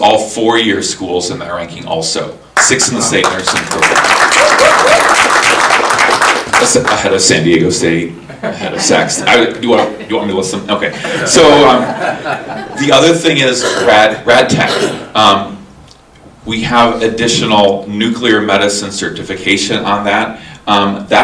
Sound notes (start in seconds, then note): 3.1 audience applauding; 10.9 audience laughing